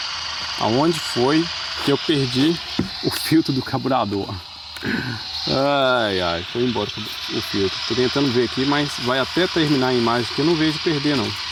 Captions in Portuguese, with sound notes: aonde foi que eu perdi o filtro do carburador. [limpando a garganta] Ai, ai, foi embora o filtro. Tô tentando ver aqui, mas vai até terminar a imagem que eu não vejo perder não.